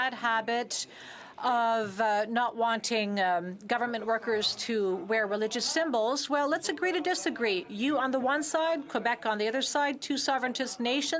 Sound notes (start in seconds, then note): none